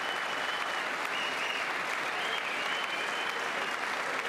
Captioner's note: applause